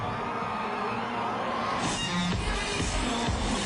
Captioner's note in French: Cris de la foule